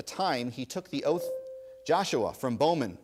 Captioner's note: ding